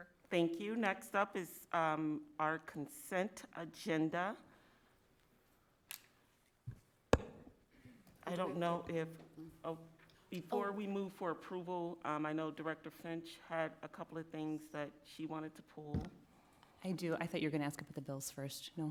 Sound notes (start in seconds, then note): none